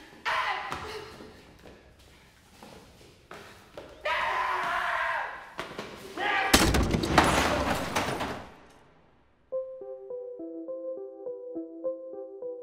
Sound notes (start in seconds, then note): 0.1 shrieking; 4.0 screams; 9.4 upbeat jazz music